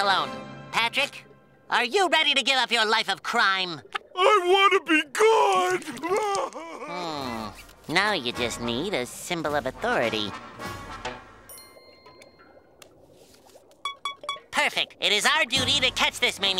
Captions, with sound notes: Patrick, are you ready to give up your life of crime? I wanna be good! [crying] Hmm... Now you just need a symbol of authority. Perfect! It is our duty to catch this maniac